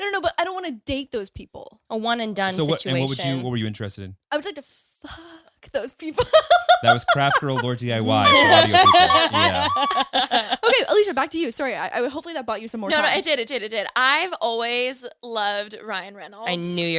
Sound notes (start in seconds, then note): 6.2 laughs; 8.7 all laughing